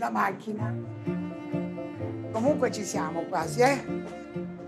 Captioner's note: speaking Italian